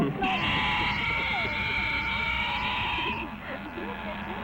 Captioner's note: monster screams